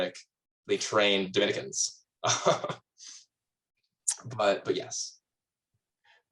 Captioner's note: laughs